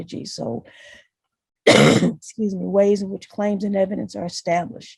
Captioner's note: coughs